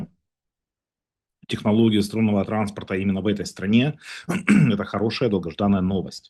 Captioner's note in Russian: откашливается